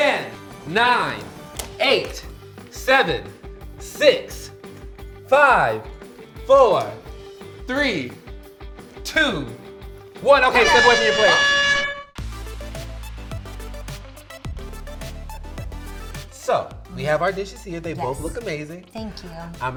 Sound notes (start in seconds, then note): 12.0 horn blowing; 12.9 slow techno music